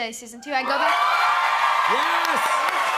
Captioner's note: cheers and applause